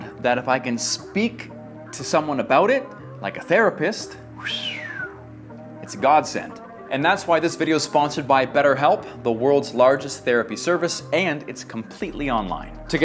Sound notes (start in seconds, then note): 4.3 whistles